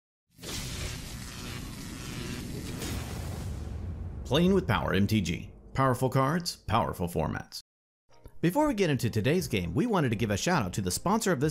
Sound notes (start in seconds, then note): 0.4 electricity Buzzing